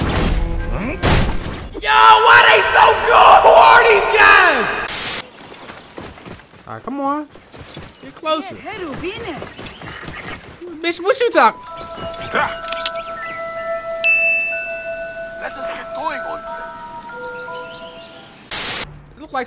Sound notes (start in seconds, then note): 4.9 static; 8.7 woman speaking Egyptian; 18.5 static